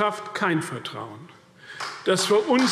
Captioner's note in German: Beifall CDU und BÜNDNIS 90/DIE GRÜNEN